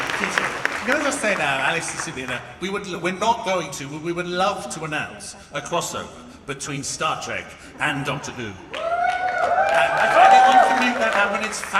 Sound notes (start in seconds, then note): 8.6 audience cheers